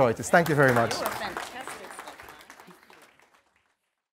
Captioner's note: applause